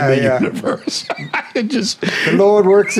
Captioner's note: laughing